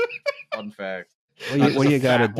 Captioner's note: laughs